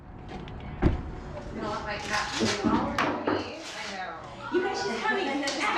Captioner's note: locker room chatter